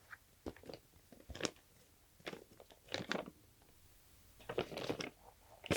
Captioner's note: papers crinkling